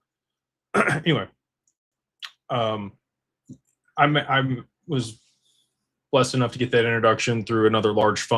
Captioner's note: clears throat